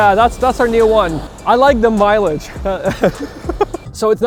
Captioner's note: laughs